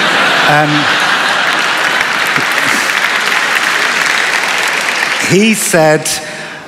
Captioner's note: laughter and Applause